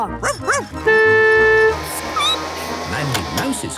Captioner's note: squeaking; honking; barking